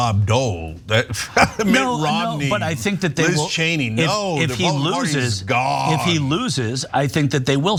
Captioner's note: laugh